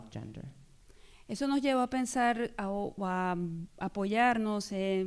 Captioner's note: speaking spanish